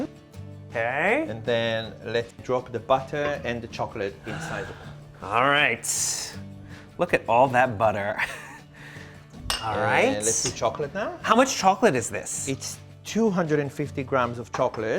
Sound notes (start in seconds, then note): 8.6 chuckles